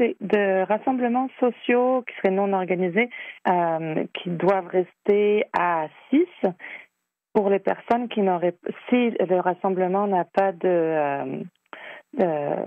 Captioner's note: speaking French